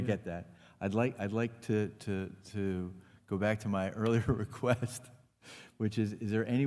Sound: laughs

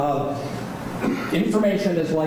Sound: laughing

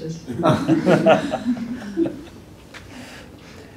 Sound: laughter

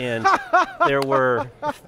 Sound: laughter

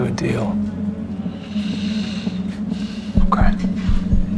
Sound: breathes deeply

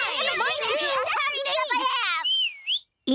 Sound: whistling

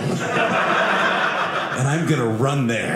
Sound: audience laughing

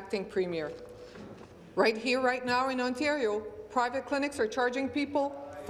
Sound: speaking in French

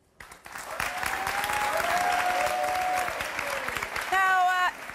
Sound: audience applause

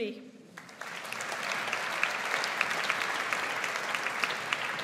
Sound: audience applauds

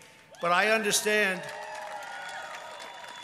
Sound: cheering and applause

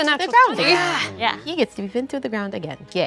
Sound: everyone chatters

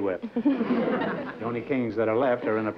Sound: laughter

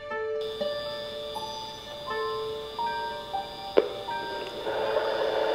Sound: tape machine whirring

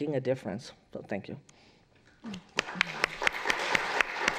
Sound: applause

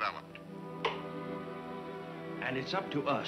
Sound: radio clicks off

